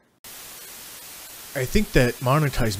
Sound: static

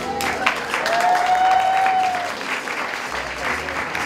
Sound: clapping and cheering

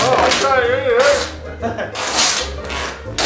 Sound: laughing

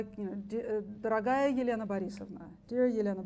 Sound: speaks foreign language

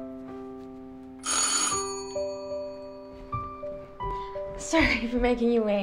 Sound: doorbell ringing

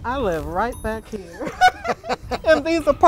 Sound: they laugh

